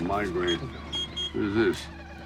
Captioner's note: horn beeping